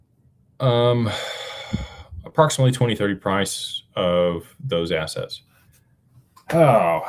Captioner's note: sighs and gasps